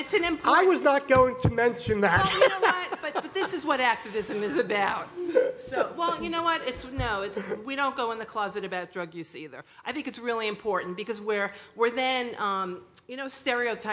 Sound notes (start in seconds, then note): 2.1 laughter